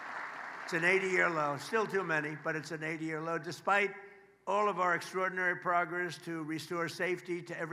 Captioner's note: applause